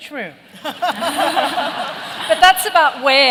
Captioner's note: laughter